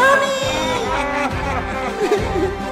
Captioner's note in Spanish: risas reclusos